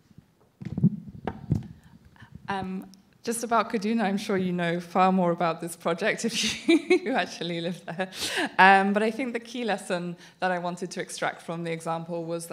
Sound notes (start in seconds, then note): 6.2 laughs